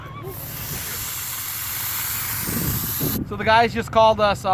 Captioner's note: air hissing